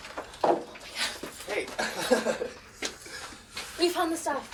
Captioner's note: laughs